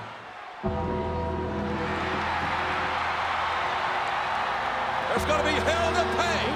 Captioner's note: crowd cheering; dramatic music